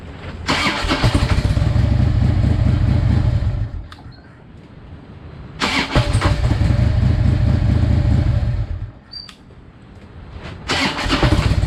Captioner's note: engine starts quickly three times